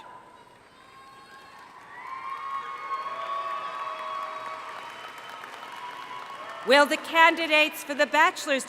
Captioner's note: cheering